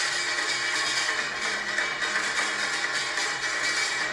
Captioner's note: none